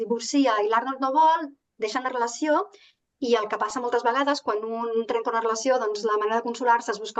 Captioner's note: continues speaking in Catalan